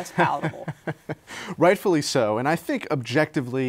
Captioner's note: laughs